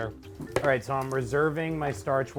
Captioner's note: pasta boiling